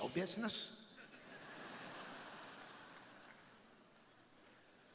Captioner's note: crowd laughing